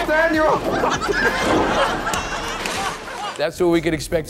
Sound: laughing

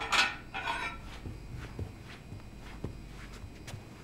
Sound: dishes clattering; footsteps approaching

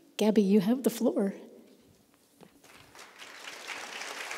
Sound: applause

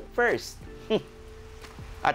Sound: chuckles

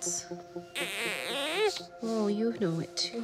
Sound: baby cooing

